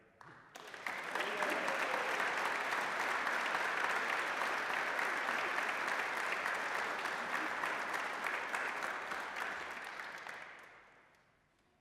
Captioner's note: applause